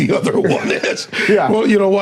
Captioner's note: laughing